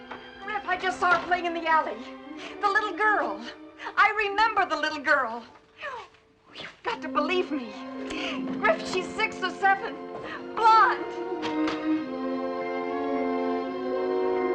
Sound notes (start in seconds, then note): none